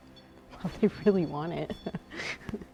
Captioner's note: REM pod beeping